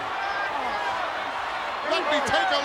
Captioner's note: audience chattering